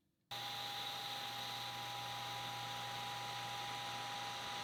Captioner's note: machine whirring